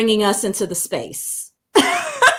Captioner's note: laughter